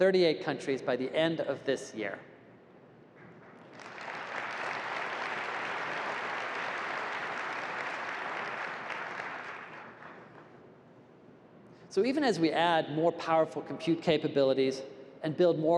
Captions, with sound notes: in over 38 countries by the end of this year. [applause] So even as we add more powerful compute capabilities